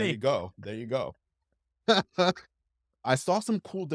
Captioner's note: laughs